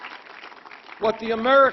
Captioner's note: applause